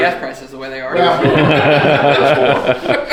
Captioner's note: laughing